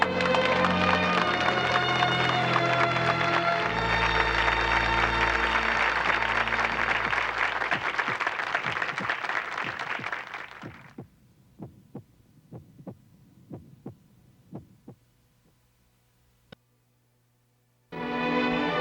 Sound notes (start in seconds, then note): 0.1 applause; 7.0 heart beating